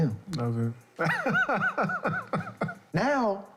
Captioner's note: laughing